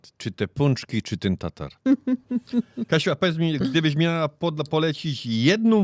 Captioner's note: śmiech